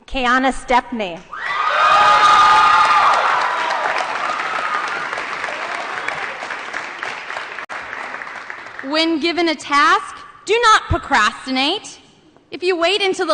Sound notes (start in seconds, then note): 1.6 applause & Cheering